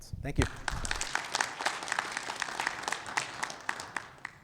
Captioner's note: audience clapping